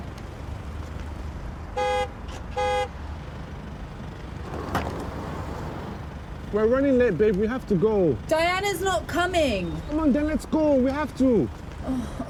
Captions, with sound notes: (car horn honking) - We're running late, babe, we have to go. - Diana's not coming. - Come on then, let's go, we have to.